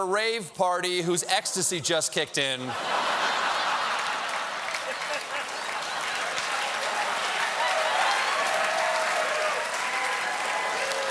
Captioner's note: cheers and applause